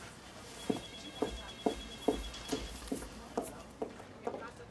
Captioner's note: phone ringing